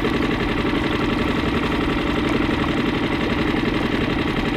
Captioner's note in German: Motor grollt